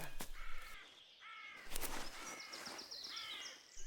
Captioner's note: bird squawking